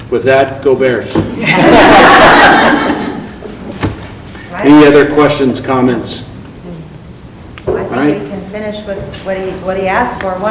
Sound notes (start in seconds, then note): 1.3 group laughing